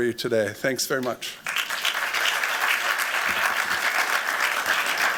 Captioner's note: applause